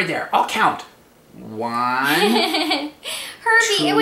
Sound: laughs

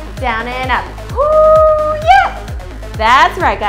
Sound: screams

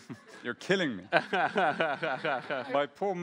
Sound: laughs

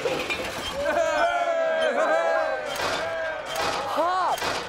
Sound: crowd cheering

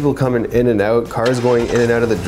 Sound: car starting

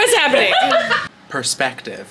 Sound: laughing

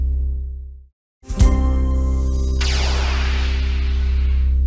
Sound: ricocheting continuing

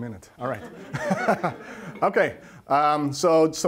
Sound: laughs

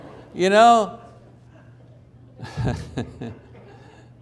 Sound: chuckling

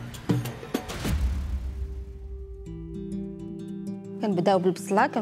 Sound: speaking Arabic

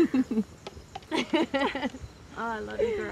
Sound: laughing

